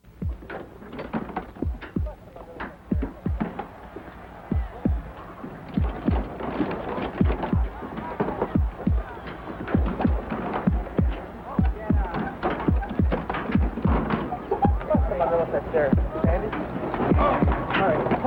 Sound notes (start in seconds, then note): 0.4 gate clangs; 3.8 cheering; 8.5 heart beats, accelerating; 13.0 voices murmuring